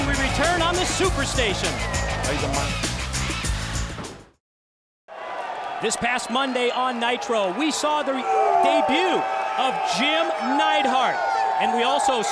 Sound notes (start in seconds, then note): 5.7 crowd cheering